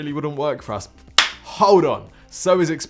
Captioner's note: claps